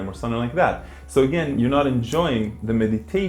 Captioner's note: snaps